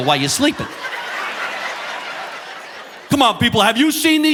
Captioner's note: audience laughing